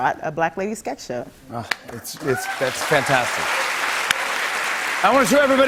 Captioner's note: cheers and applause